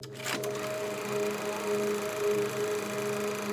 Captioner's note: film reel whirrs